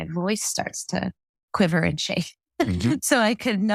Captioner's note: laugh